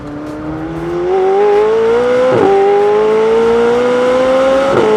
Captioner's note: engine revving